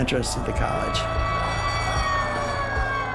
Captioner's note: siren blaring